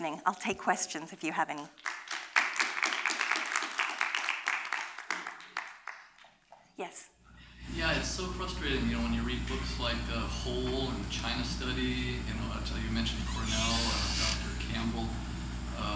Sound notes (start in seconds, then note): 1.6 applause